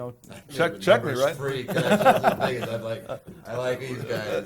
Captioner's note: laughing